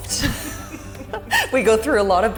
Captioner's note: laughing